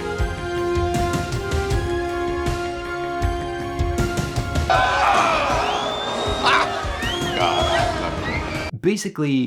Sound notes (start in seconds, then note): 4.6 audience cheers; 6.7 laughs